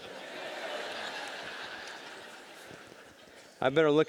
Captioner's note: audience laughing